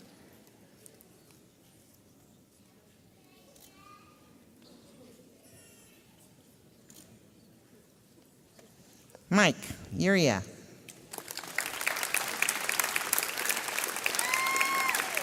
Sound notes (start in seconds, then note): 6.5 camera clicks; 11.0 audience applauds